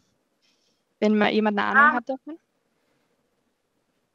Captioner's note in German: Kinderstimme